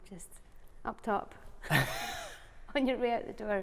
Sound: laughing

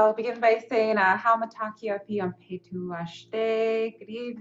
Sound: speaking in Lakota language

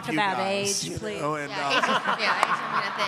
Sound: laughing

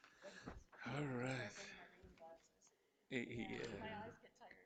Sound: group chattering

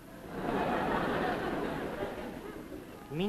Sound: audience laughs

